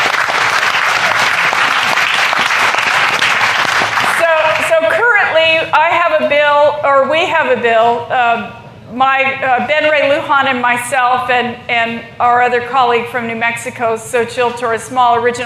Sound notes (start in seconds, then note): 3.9 applause